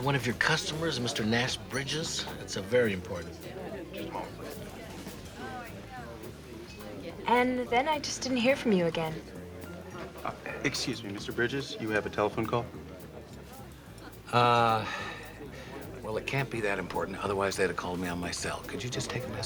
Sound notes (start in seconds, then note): 5.1 on phone